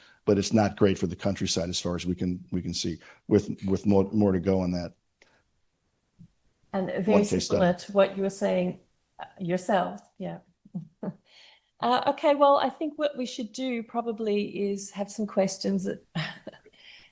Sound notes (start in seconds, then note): 11.1 chuckles